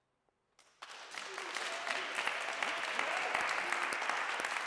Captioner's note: applause